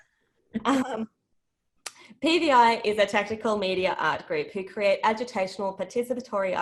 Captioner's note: laughter